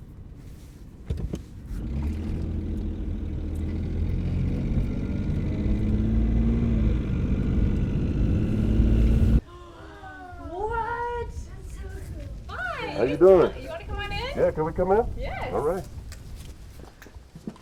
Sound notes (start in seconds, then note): 1.8 car accelerating